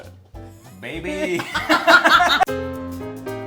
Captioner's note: laughs; bouncy piano music